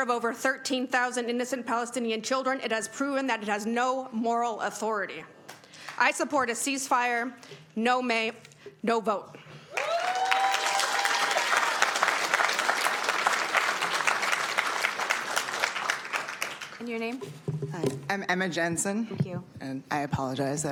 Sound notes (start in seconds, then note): 17.5 applause